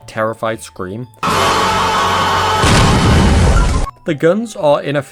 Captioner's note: pig screams